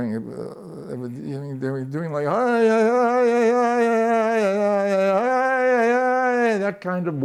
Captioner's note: chants